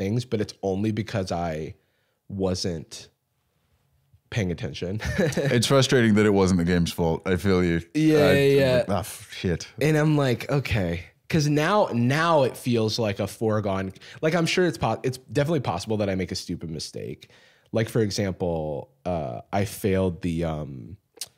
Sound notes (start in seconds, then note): 5.0 laughs